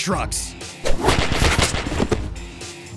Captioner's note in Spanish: disparos